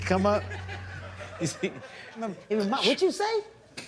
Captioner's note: laughter